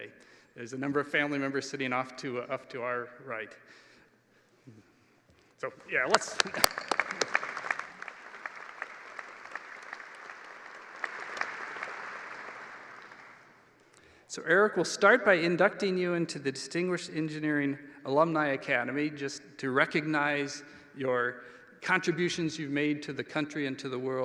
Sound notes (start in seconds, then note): 9.6 applause